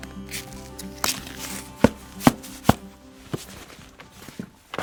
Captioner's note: boots stomping